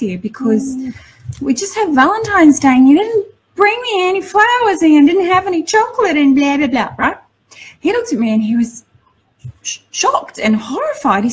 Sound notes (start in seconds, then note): none